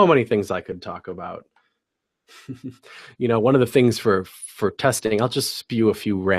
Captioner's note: laugh